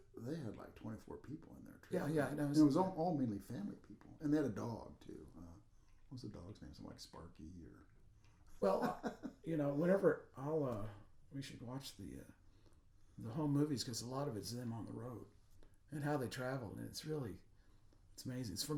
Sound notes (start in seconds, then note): 8.6 laughing